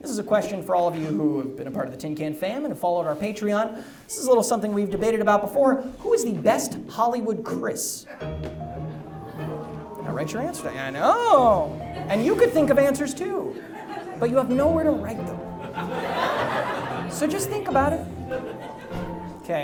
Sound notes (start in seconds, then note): 9.4 audience oohs; 15.8 audience laughs